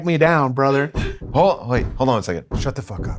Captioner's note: door knocking